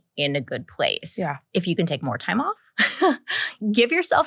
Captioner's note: laughs